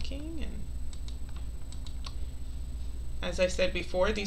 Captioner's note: mouse clicking